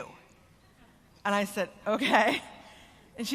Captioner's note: laugh